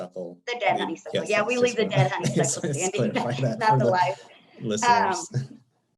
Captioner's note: laughing